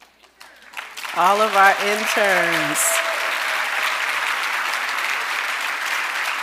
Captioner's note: audience applauding